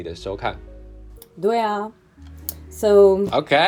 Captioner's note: in chinese